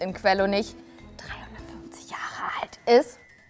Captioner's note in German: flüstert